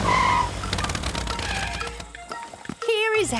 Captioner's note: tires screeching